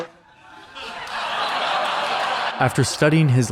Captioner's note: audience laughing